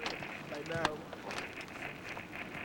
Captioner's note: static